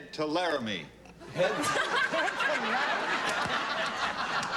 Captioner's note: laughter